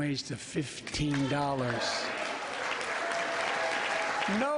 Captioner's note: applause